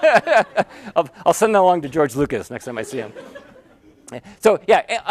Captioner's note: laugh; laughter